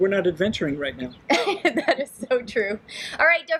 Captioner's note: laughing